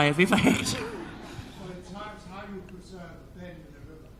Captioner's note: crowd laughing; speaks in foreign language